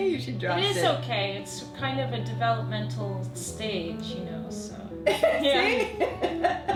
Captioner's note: laughing